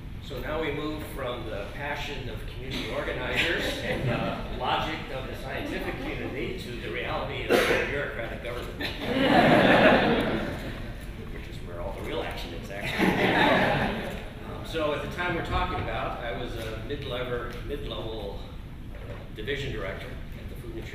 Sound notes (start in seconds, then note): 3.8 laughter; 8.8 laughter; 12.8 laughter continues